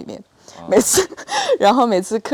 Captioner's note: laugh